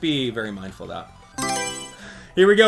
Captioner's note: Mario Selection Sound